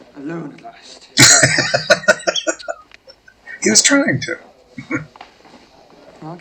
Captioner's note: laughing